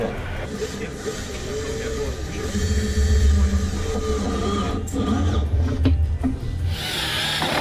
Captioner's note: tools whirring